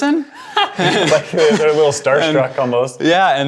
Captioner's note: laughing